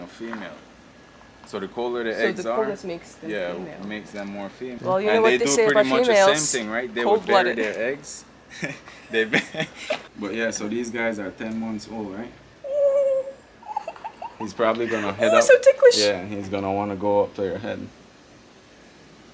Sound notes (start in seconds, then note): 8.4 laughing